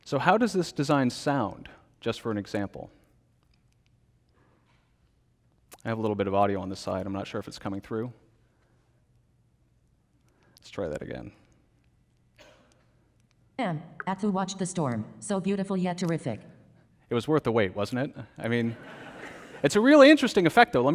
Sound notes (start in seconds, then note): 12.4 coughs; 18.6 congregation laughs